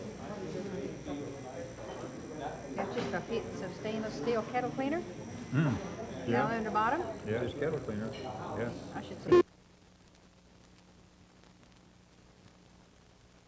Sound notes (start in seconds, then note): 9.2 buzzing/beeping